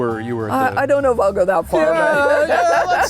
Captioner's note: laughs